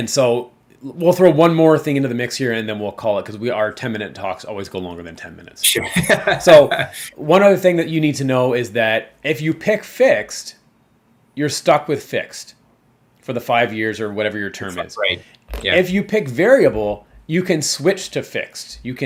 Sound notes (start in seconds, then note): 5.7 laughs